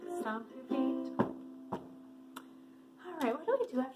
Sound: stomping

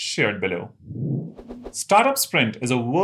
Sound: sound effect

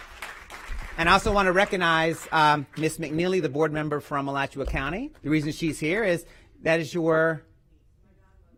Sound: applause

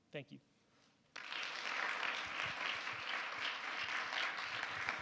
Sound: audience applauds

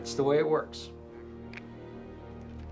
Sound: phone clicking

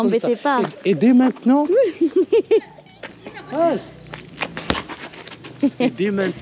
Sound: laughs

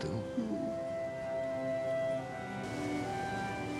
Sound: sighs

